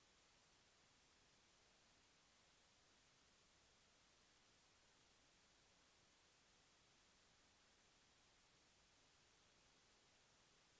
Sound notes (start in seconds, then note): none